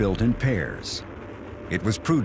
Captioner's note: rocket engine fires up